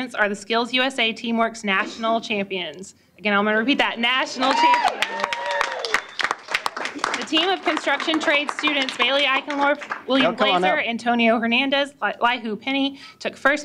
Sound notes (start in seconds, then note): 4.5 applause